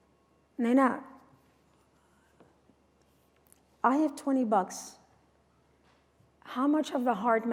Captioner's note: non-english speech